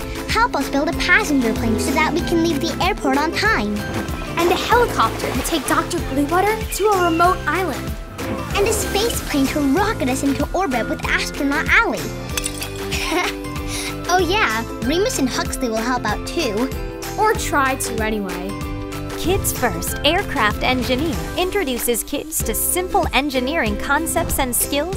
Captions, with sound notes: Help us build a passenger plane so that we can leave the airport on time... and a helicopter to take Dr. Bluewater to a remote island… and a space plane to rocket us into orbit with astronaut Allie! (laughing) Oh yeah, Remus and Huxley will help out too... or try to, anyway! Kids First Aircraft Engineer introduces kids to simple engineering concepts and skills...